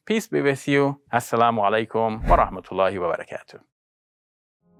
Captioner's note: foreign language